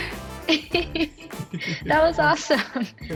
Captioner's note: laughing